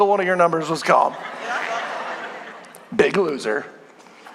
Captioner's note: congregation laughing